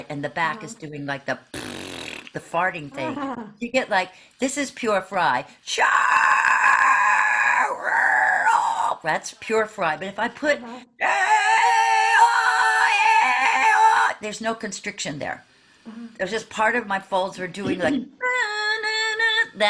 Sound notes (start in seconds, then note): 1.5 farting sound; 5.8 screaming; 11.0 screaming